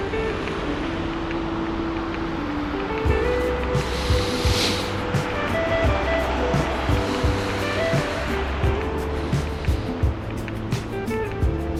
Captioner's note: wind Blowing